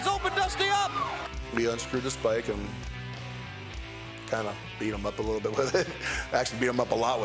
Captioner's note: laugh